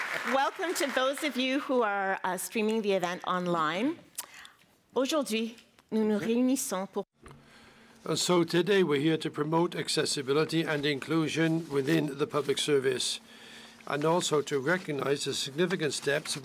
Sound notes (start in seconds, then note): 4.8 speaking in French